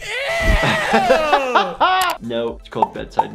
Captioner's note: laughter